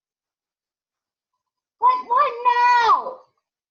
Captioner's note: yells